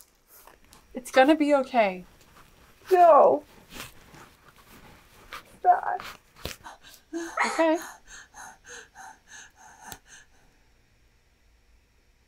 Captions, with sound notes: It's gonna be ok. No it's not. [cries] Ok.